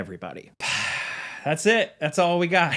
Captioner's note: sighing